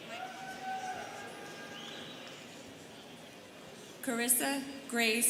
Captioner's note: students cheering